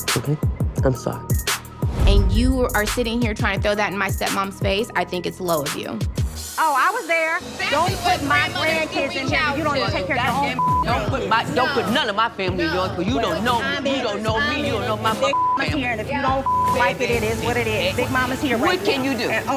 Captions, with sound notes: Okay? I'm sorry. - And you are sitting here trying to throw that in my stepmom's face. I think it's low of you. - Oh, I was there. Don't put my grandkids in here when you don't even take of your (beep) grandkids. - Don't put none of my family in yours because you don't know me. You don't know me. You don't know my (beep) family. - Big Mama's here, and if you don't (beep) like it, it is what it is. Big Mama's here right now. - What can you do?